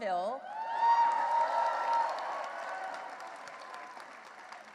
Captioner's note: cheering and applause